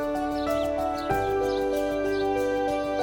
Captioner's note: birds chirping